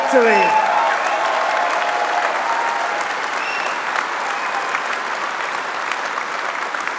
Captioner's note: applause